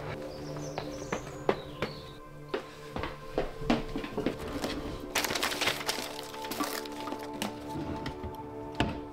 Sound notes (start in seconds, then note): 4.0 papers Rustling